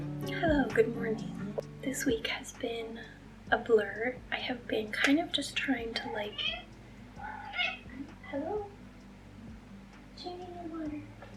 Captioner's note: meow